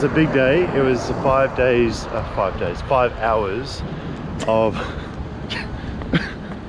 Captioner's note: laughs